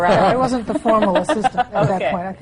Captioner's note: laughter